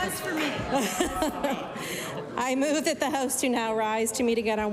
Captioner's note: laughter